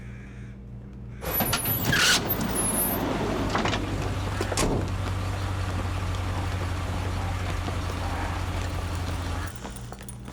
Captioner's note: car sounds